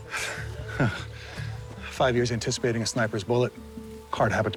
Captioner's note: scoffs